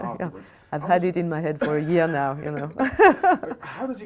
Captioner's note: laughs